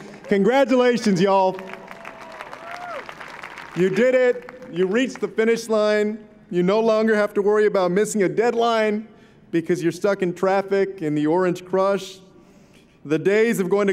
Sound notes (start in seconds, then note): 1.7 applause